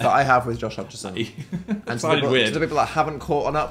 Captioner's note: laughs